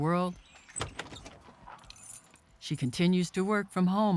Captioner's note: keys jingling